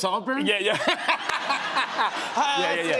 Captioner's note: laughter